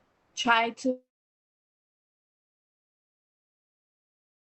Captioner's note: audio cuts out